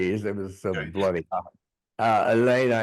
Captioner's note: chuckling